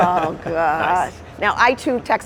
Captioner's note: laughter